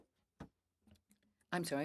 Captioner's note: speaking French